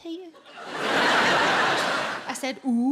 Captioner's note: audience laughs